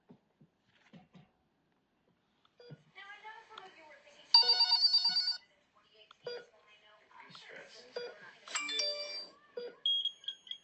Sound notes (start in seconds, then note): 2.7 phone beeps; 3.6 faint voice; 4.3 phone rings; 6.4 phone beeps